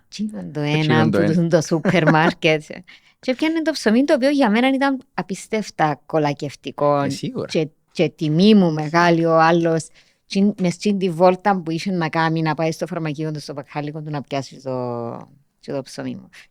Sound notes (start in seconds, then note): 1.8 he laughs